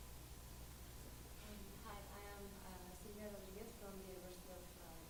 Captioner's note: voiceover